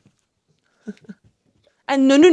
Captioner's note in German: lacht